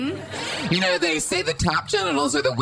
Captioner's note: audience laughter